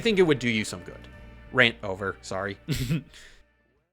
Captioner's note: cuckles